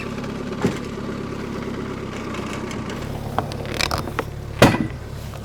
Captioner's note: skid-steer squeaks; wood thuds